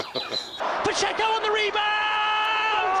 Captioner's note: laughter